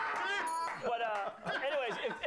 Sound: laughter

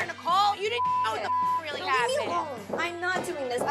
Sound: beep

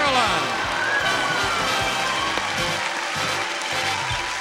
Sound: audience clapping

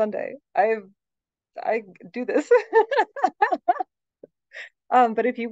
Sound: laughs

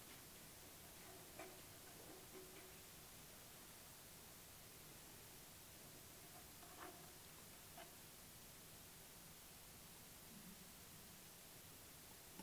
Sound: hand scraping lightly on block

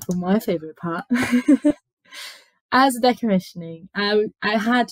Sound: laughs

